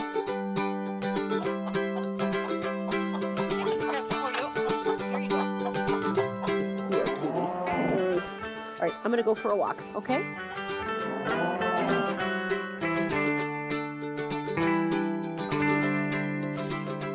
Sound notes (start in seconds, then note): 0.2 upbeat acoustic music; 2.1 chickens clucking; 6.5 cows mooing; 14.6 upbeat music continues